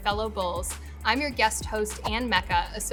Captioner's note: air whooshing